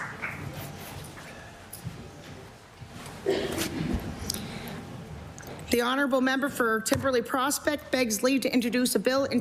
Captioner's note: applause